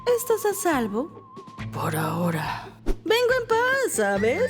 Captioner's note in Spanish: none